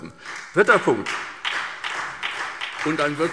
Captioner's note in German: Beifall SPD